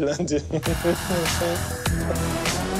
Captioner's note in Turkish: Ateş gülüyor